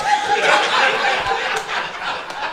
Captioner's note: crowd laughter